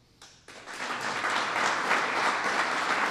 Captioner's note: applause